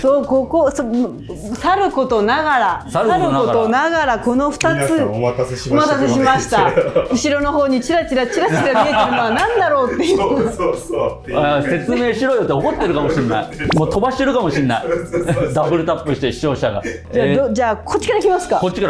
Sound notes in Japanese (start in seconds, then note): 8.6 笑い